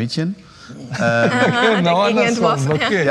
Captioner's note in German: Lachen